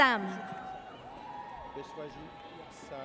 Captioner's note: audience cheers